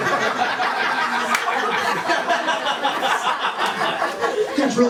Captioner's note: laughter